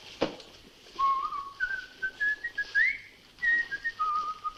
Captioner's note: Jock whistles